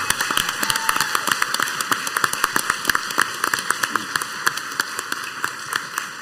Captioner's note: group cheering and applauding